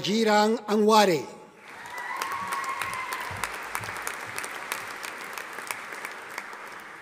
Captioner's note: audience applauding